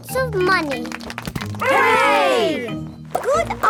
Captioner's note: crowd applauding